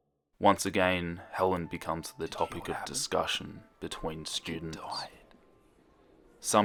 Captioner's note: whispers